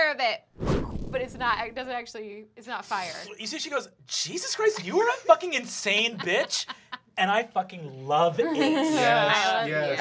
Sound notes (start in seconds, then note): 0.1 blasts air; 8.4 giggling